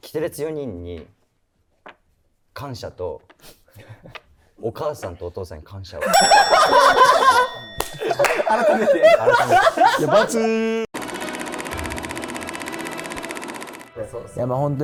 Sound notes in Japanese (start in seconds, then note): 6.0 ：笑い